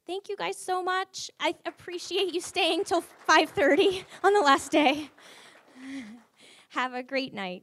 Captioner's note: audience applause